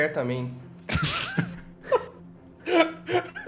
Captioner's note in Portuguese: Risos